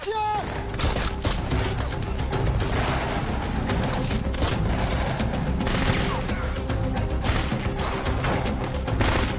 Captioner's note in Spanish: Disparos